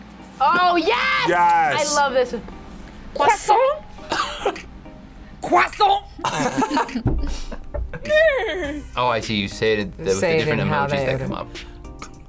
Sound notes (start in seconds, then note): 6.2 both laugh